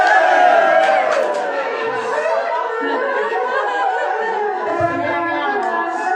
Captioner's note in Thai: ปรบมือ